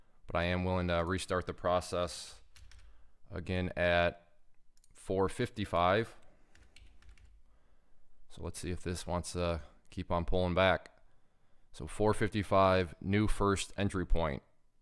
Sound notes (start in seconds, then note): 6.8 keyboard clattering